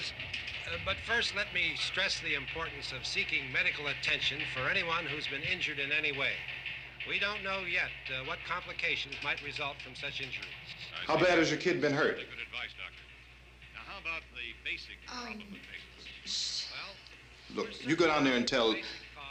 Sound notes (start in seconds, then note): 16.2 murmuring